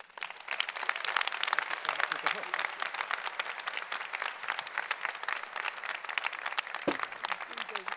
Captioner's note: applause